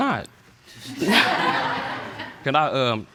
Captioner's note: all laughing